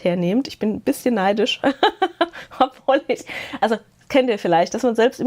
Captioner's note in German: gelächter